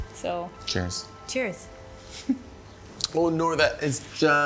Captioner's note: giggles